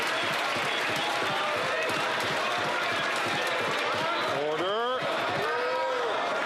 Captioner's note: some Applause